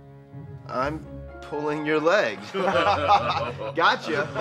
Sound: laughs

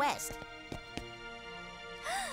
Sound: gasps

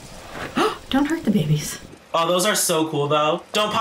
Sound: gasps

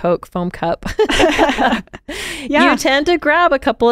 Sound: laughing

